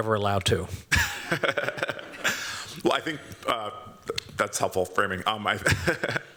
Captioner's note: chuckles